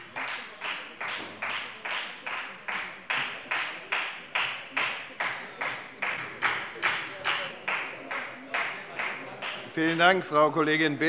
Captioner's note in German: Beifall bei der FDP